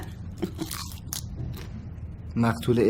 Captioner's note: crisps sound